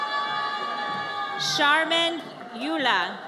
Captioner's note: audience cheers